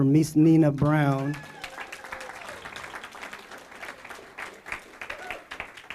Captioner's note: applause